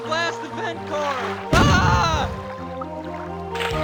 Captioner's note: boom